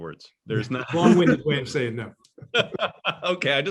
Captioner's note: laughs